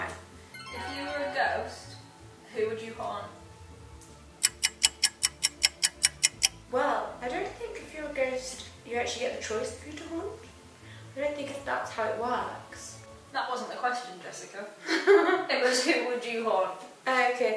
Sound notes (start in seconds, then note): 4.4 clock ticking